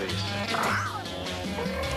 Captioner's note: screeches